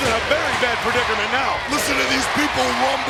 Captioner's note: audience chanting